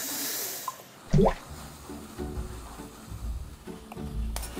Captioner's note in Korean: 콸콸콸